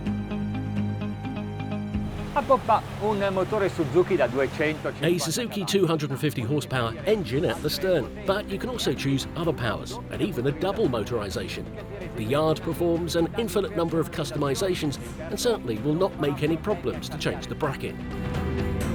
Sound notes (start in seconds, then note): 0.1 intense music; 2.8 speaking foreign language